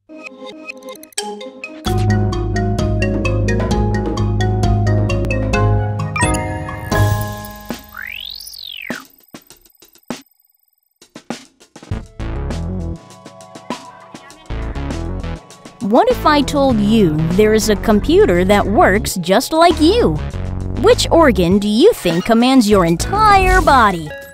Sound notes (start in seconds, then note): 1.1 upbeat music; 7.4 electronic beeping; 12.5 electronic music